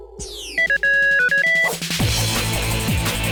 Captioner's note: beeping